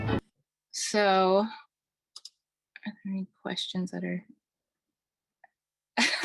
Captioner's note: laughing